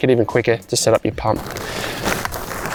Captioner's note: tent rattling